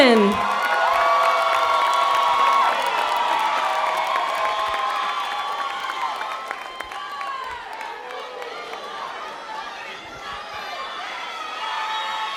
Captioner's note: cheering